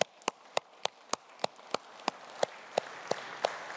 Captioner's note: audience applauding